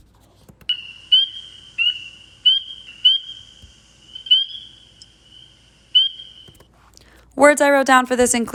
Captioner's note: spring peeper vocalization